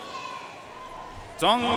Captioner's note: audience cheering and applauding